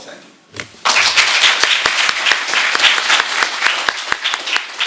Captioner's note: applause